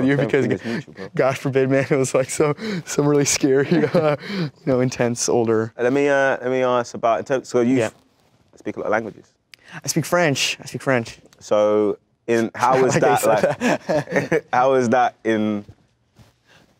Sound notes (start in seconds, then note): 12.6 laughs